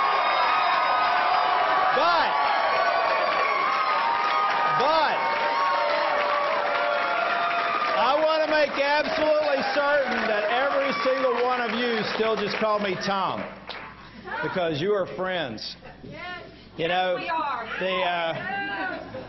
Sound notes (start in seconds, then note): 5.5 applause